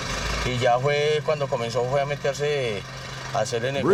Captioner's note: Spanish spoken audio